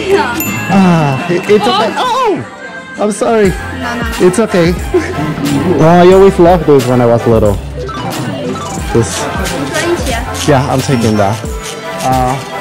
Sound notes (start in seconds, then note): 9.1 speaks Chinese